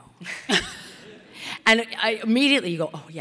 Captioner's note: audience laughing